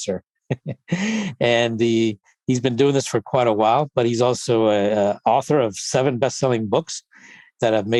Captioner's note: giggles